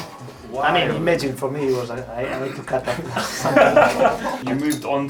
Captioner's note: laughter